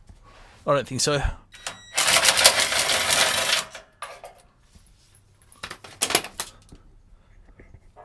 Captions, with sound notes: I don't think so. (drill whirring, stuttering)